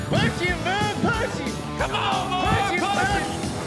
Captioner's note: fast hoof beats